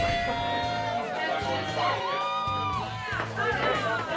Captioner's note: bar patrons cheering